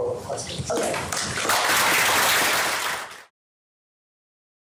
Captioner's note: applause